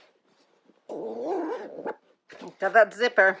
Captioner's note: zipper zipping